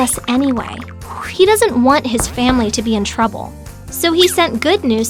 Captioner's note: footsteps